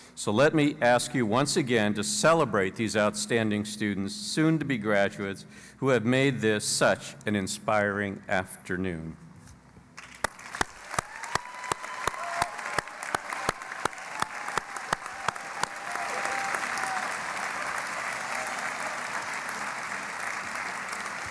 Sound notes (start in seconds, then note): 10.0 cheering and Applause